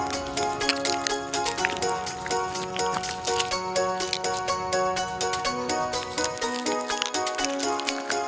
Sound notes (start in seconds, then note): 1.5 cheerful music; 1.5 paint squelching